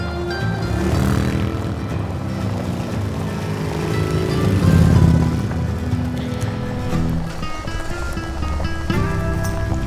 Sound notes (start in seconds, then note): 0.0 motors revving